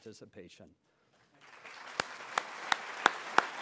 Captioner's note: applause